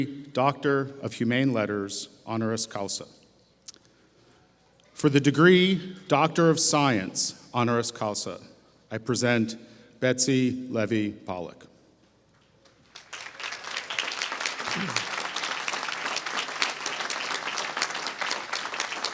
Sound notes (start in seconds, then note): 12.6 applause